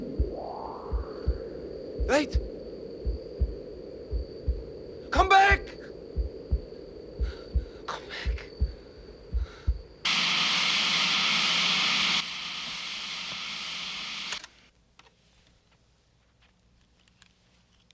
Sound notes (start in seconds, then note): 7.2 breathes heavily, whispers; 10.0 TV statics